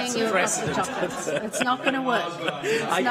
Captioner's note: laughter